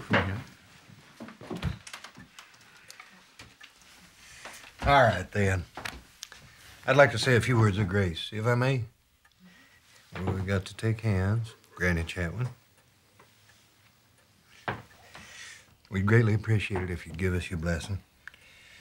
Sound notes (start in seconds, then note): none